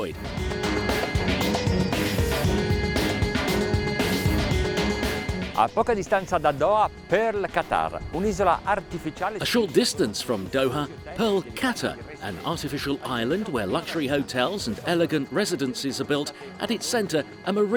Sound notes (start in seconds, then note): 0.1 dramatic music; 5.7 speaks in foreign language